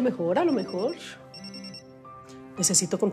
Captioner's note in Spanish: Suena el celular